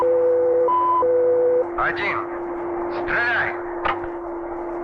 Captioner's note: soldier speaking in Russian; machines humming; switches clicking